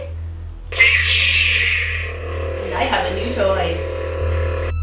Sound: sound effect

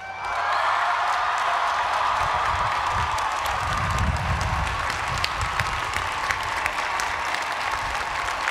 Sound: applause

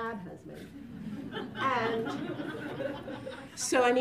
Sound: laughter

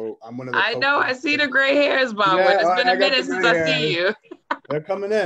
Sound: laughs

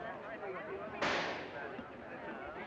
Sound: gunshot; crowd murmuring

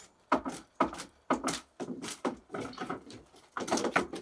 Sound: planks clunking

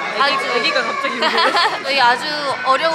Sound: baby crying

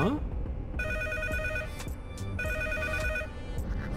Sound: ringing telephone

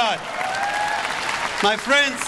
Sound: audience applause

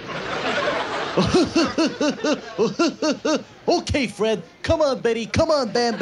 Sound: laughs

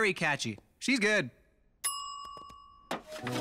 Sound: timer dinging

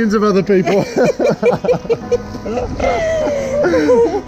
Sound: laughing

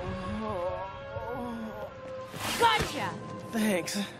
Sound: groaning

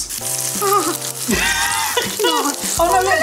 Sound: waffle maker sizzling; laughing

